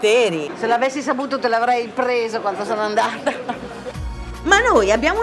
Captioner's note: laughing